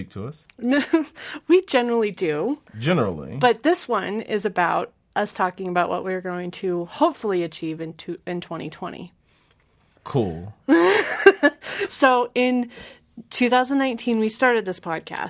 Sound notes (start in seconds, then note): 10.9 laughs